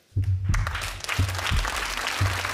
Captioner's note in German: Applaus, Herzschlag